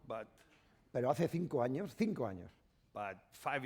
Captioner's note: speaking spanish